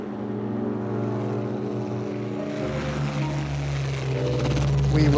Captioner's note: jet engine roaring